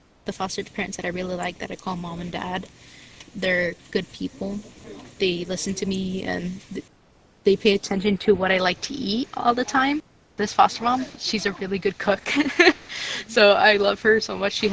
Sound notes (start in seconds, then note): 10.5 laugh